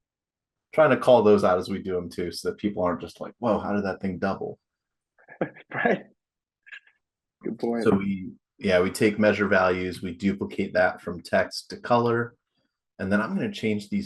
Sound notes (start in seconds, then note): 5.3 chuckles